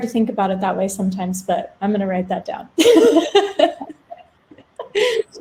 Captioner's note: laughs